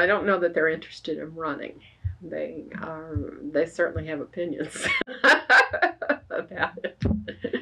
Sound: laughs

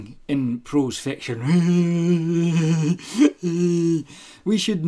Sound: idiotic laughter

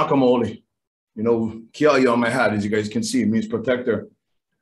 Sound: foreign speech

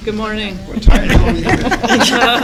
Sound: laughter

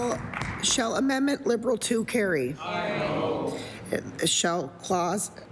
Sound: applause

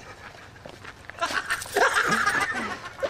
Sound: laughter

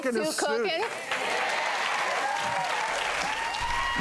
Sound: applause

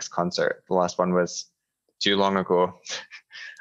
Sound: chuckles

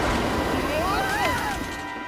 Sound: screaming

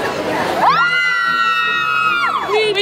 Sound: cheering

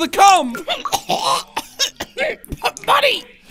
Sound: Goofball coughing

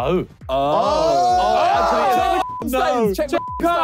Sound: group exclaiming

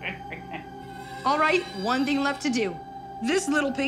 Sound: chuckles

